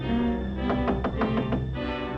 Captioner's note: knocks